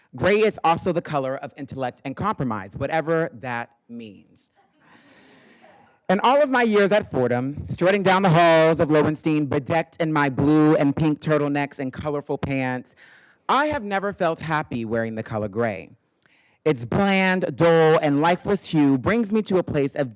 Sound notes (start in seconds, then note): 4.6 attendees laughing